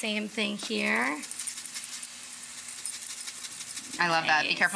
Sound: lemon scratching

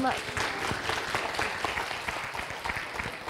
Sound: audience clapping

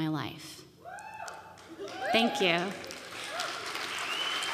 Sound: audience cheering

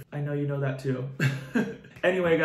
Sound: chuckles

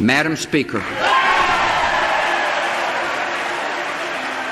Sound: audience cheering

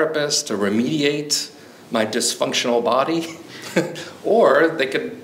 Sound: chuckles

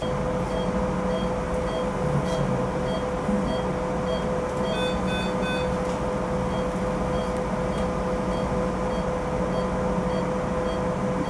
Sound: beep sound of machines

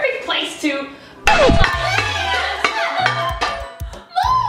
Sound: pots banging

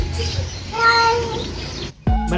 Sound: Mapa Meowing

